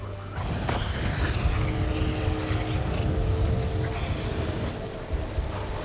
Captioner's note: winds swirling